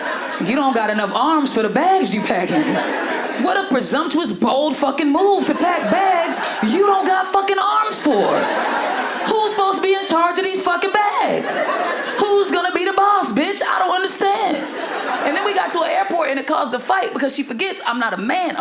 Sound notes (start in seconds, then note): 8.3 audience laughs